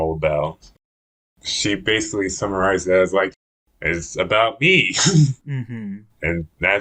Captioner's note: laughs